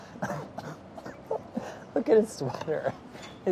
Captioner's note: laughing